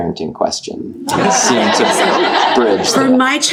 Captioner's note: audience laughing